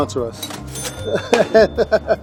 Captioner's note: dings; laughs